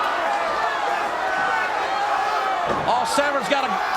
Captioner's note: crowd hollering